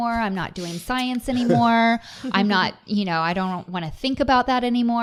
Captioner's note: chuckling